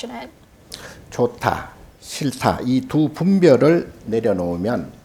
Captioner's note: speaking Korean